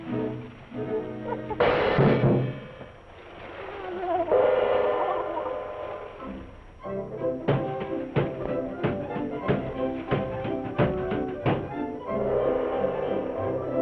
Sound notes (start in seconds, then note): 7.1 train chugging